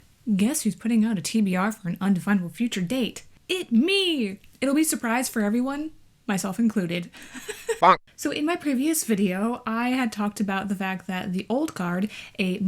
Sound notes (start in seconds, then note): 7.2 laughs